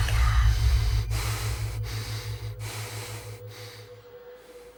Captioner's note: man breathes heavily